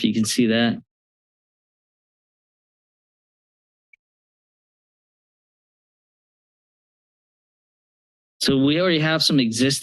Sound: silence

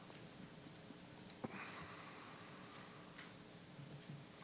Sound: mouse clicking

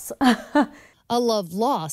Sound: chuckles

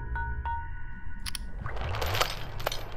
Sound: iPhone clicks on; chains rattling

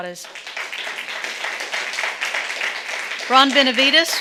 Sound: audience clapping

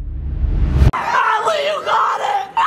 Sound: reverse boom

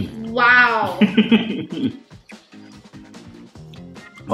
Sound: chuckles

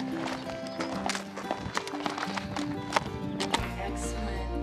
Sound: hooves on gravel

